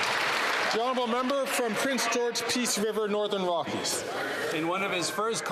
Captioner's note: some Applause